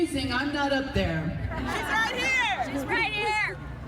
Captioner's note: crowd laughing